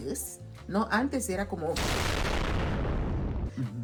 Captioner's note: explosion sound